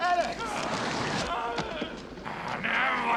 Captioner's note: yelling